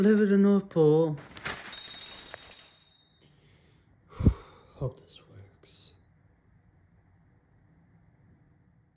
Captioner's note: sighs